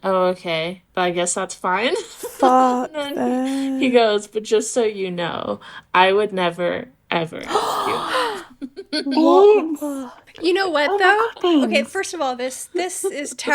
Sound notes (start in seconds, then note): 7.4 shocked gasps; 7.4 laughing